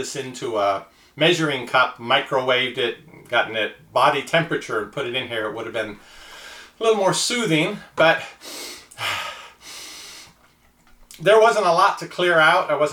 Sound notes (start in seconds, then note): 8.3 sniffing